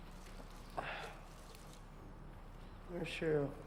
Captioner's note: sighs